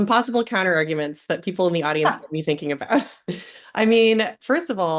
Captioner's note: laughs